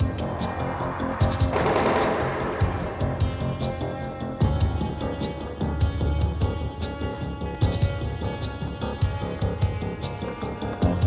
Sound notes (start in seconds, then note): 1.2 gun firing